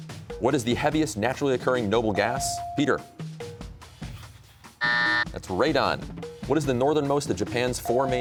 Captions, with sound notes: What is the heaviest naturally occurring noble gas? Peter. (buzzer sounds) That's radon. What is the northernmost of Japan's four main...